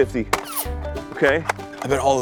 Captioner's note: nerf bullet zips